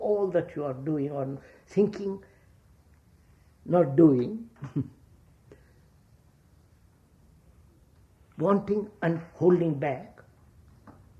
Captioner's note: laughs